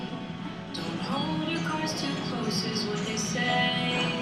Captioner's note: none